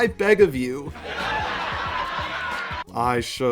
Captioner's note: laughter